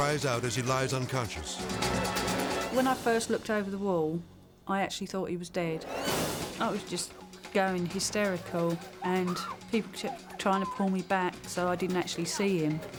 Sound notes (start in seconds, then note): 0.0 intense music; 8.3 screams